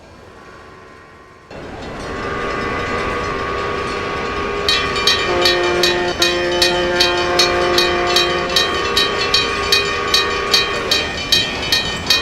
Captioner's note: CP H1d whistle, railroad crossing whistle